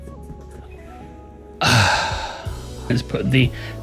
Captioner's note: sighs